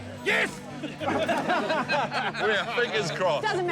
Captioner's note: others laugh